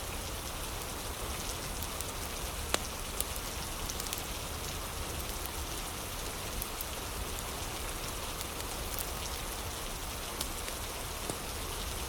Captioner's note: fire crackling